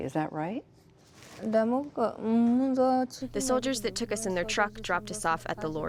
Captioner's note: through translator